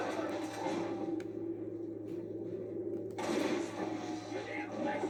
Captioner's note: sounds of cold blood and shoots